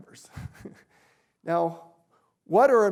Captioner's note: chuckles